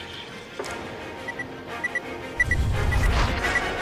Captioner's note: device beeps